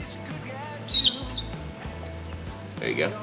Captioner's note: squeak